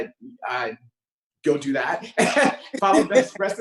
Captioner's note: laughing; laughs